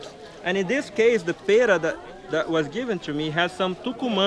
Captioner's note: non-english